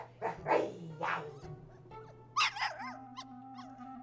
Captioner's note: dog barks